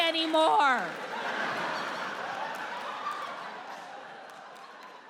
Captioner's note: audience laughs